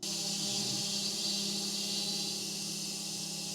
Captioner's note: drill whirring; beeping; drill whirring